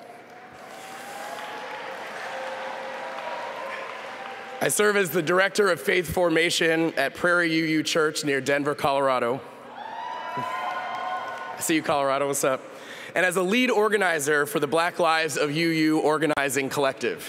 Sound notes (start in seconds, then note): 4.2 applause